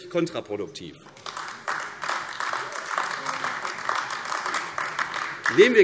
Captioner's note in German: Beifall AfD